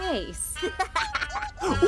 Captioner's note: giggles